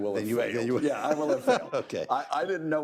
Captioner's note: laughs